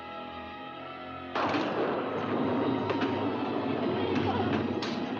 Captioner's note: suspenseful music; loud thunder; banging